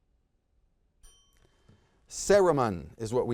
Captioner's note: bell chimes